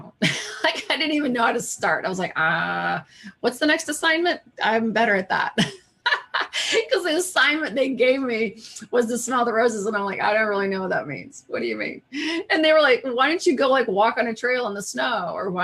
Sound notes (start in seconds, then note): 6.0 laughs